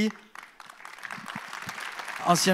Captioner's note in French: Applaudissements